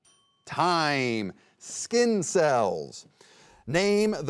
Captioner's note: timer dinging